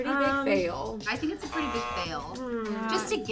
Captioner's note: buzzer sound